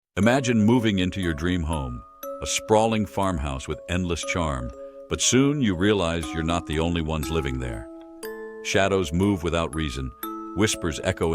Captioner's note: voiceover